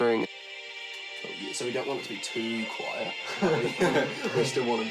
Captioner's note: chuckles